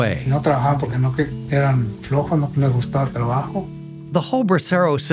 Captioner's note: speaking in foreign language